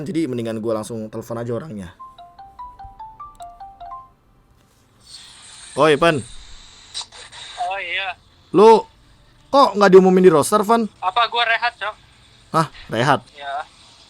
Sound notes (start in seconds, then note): 3.9 calling tone